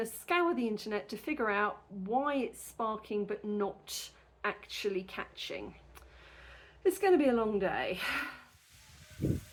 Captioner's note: sigh